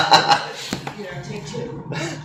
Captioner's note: laughing